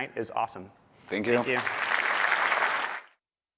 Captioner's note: applause